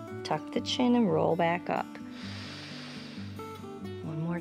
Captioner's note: inhales